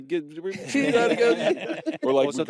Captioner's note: laughter